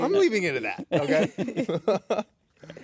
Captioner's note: laughter